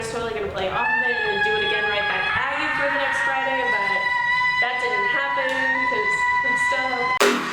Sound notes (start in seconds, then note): 2.2 yells; 7.3 upbeat music